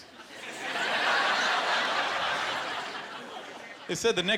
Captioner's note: laughter